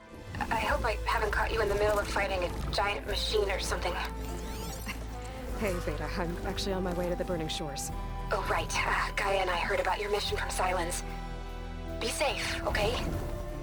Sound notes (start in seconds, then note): 4.8 laugh